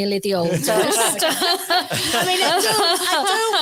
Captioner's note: audience laughs